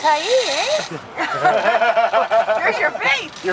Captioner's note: laughter